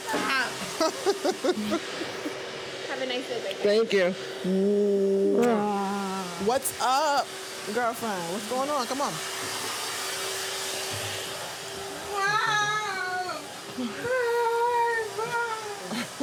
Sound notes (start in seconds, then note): 0.1 laughing; 5.3 kissing; 15.1 laughing